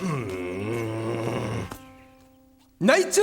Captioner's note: growling